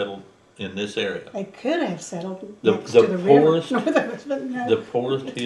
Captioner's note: laughs